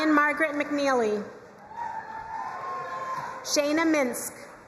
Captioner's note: crowd cheering and applauding